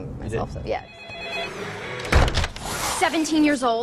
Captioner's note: phone ringing